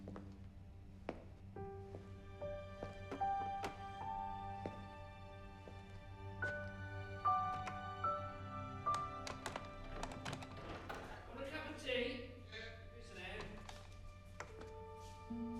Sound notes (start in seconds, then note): 9.0 rattling